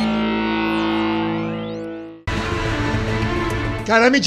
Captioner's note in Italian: Applauso